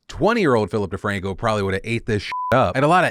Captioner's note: beep